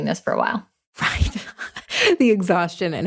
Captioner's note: laughs